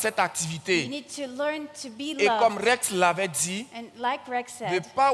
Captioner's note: continues in French; continues in French